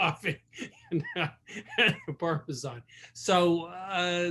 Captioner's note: laughing